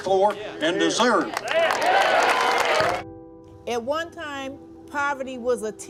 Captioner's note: audience applauds